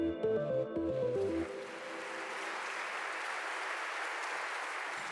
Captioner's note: audience applauds